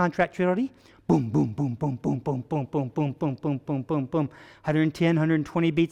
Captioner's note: vocalizing booming heart beat